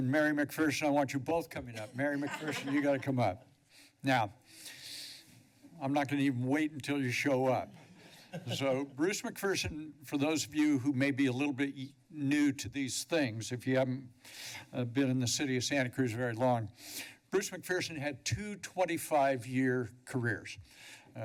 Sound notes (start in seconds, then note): 1.8 laughter; 7.9 laughter